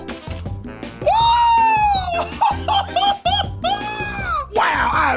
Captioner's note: laughs